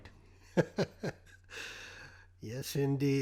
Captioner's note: laughing